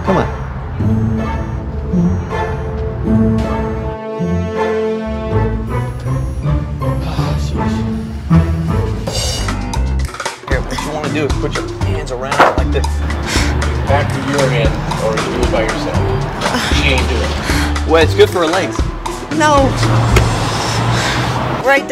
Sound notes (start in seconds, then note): 1.1 playful music; 9.3 upbeat instrumental music; 16.4 sighs